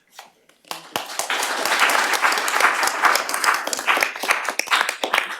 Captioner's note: applause